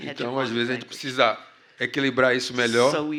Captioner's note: speaking portuguese